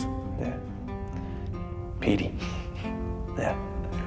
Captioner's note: laughs